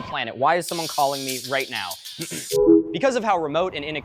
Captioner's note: iPhone call ending; ringtone